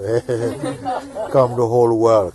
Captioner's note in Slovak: Smeje sa